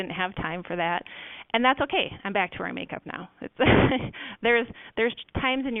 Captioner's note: laughs